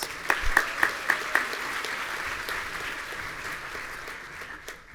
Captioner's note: audience applauding